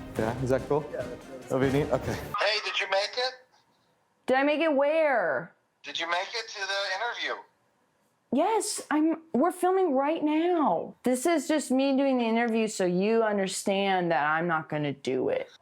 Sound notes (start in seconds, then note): 3.2 on phone; 6.1 on phone